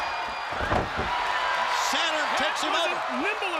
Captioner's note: crowd cheering